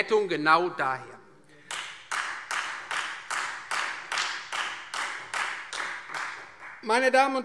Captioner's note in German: Beifall Freie Demokraten